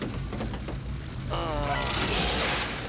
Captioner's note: groans